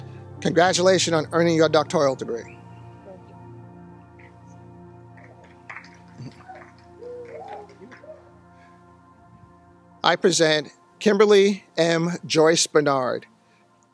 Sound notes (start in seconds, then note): 6.3 cheers